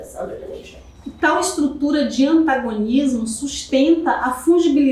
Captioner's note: speaking portuguese